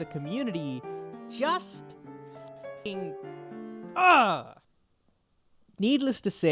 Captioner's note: sound of disappointment